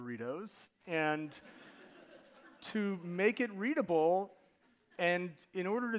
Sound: audience laughing

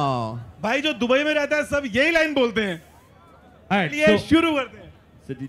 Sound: non-english speech

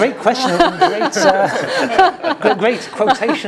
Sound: laugh

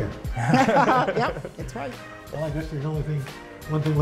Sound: laughter

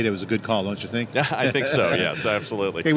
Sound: loud laughter

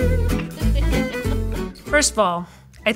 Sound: lively music; female laughing

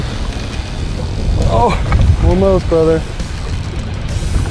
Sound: groans

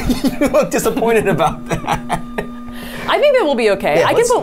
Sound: laughs

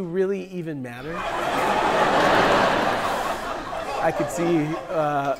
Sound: people laughing

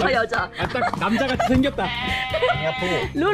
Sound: laughing

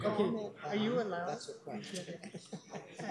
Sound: laughs

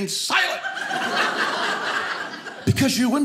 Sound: audience laughing

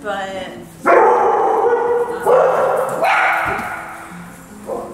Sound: dogs barking

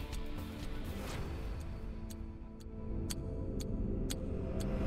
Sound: clock ticking

